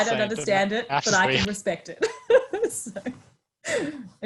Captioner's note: laughing